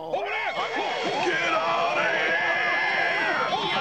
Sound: police siren wailing on tape

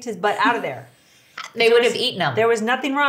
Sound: laughing

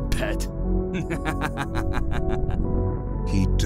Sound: laughing

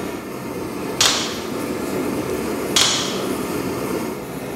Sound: metal clanging

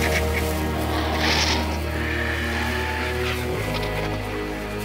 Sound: squawking

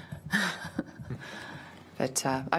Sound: chuckles

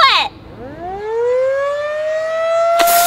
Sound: alarm blares

